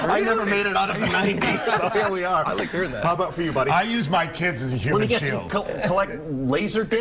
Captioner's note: laughter